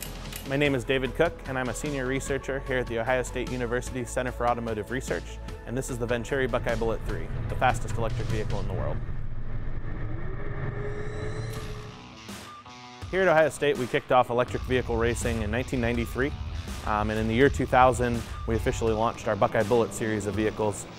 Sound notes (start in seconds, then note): 8.7 motor revving up